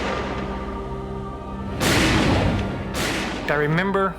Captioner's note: gunshot